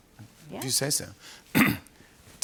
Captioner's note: clears throat